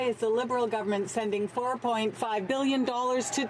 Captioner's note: some Applause